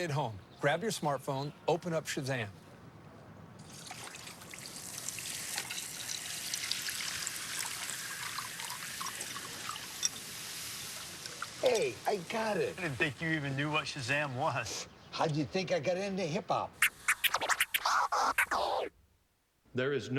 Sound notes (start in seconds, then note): 3.6 Coke Zero fizzing